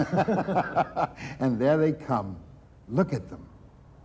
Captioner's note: people laughing